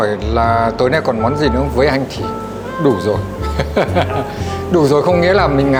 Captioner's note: laugh